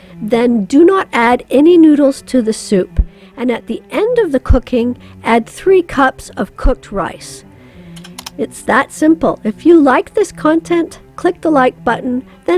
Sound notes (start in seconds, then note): 8.0 computer mouse clicks